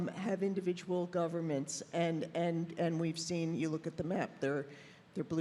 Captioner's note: none